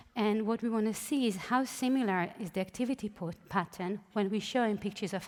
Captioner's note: none